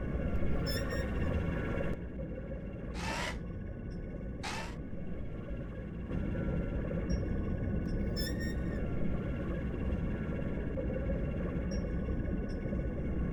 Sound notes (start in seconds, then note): 0.7 panel squeaking; 2.8 servos whirring